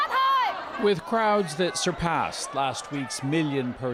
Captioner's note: chanting